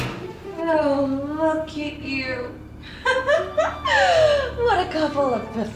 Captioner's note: mocking laughter